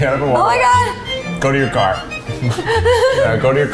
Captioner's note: laughs